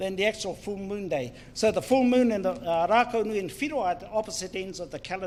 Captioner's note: speaks in foreign language